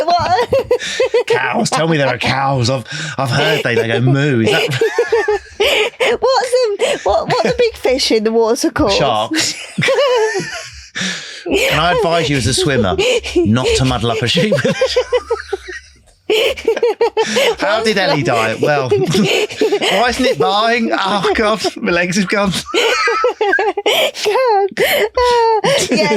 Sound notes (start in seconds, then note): 5.1 laughing; 16.7 laughing; 24.8 laughing